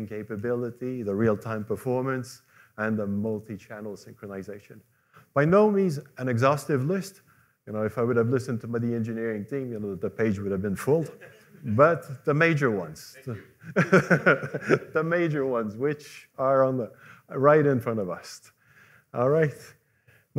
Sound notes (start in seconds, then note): 11.1 laughter; 13.3 laughter